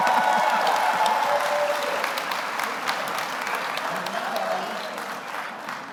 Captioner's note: audience cheers; audience applauds